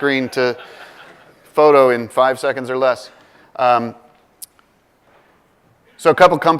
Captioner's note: laugh